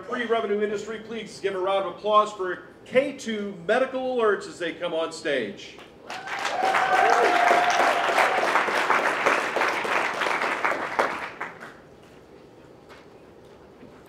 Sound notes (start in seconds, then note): 6.0 applause